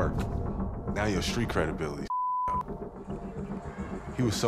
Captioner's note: beep